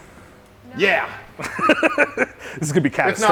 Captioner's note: laughing